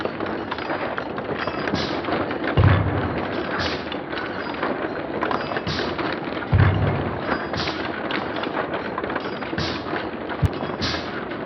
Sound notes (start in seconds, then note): 6.5 slow motion MMX sounds; 6.5 deep drum beats in the background